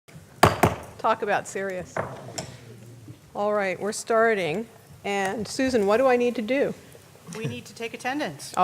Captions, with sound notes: [gavel sound] All right, we're starting and Susan, what do I need to do? We need to take attendance.